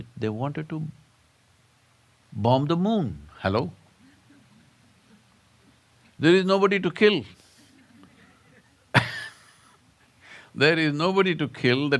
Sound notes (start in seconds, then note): 9.2 laughs